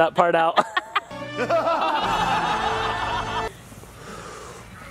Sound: group laughing; woman laughing

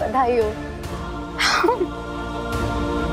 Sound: laughing

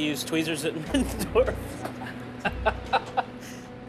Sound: laughing

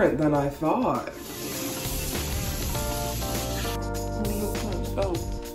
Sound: water rushing

